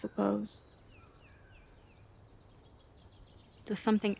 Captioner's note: birds chirping